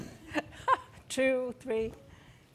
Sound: laughs

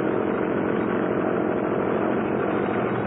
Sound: propeller whirrs

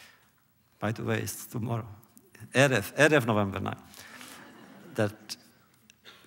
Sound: laughter

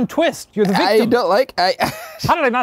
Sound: laughing

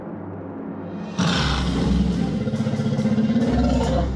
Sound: growls

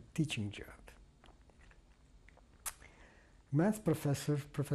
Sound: pauses for 3 seconds

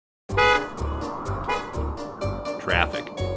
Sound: car honking

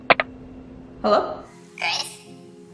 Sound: phone picks up

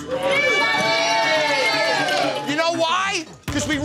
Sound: patrons cheering

